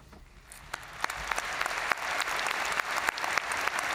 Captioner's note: all applauding